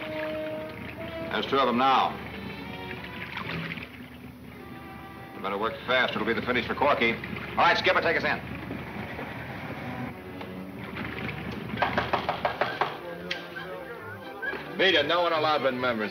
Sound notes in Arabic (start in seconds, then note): 11.7 طرق على الباب